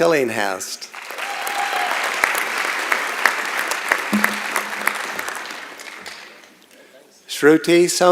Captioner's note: applause